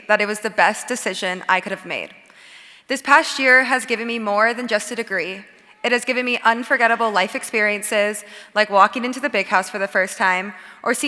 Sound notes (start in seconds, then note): none